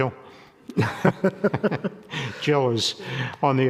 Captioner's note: people laughing